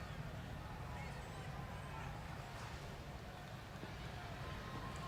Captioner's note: crowd chattering